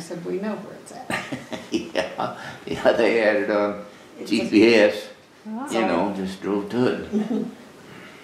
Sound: laughs

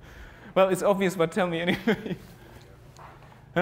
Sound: laugh

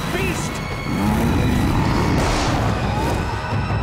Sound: grunting

